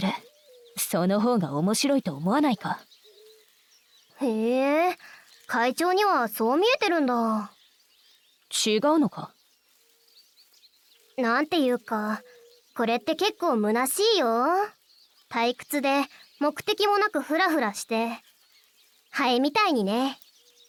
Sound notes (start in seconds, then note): 5.0 sigh